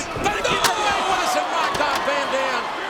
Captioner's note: steel rattling